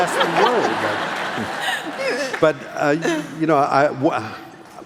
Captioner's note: laughing